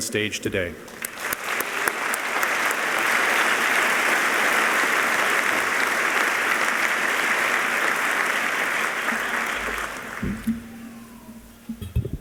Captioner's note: applause